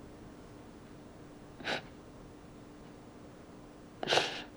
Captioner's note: sniffles